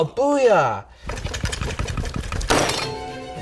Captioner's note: knife squishing meat; cleaver slams board